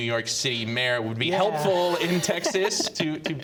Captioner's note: laughs